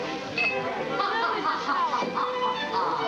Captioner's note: eliza laughing